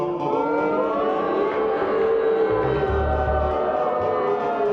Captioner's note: audience boos